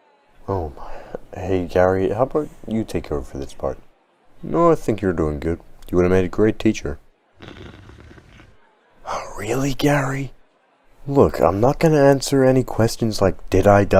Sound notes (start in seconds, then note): 7.4 sigh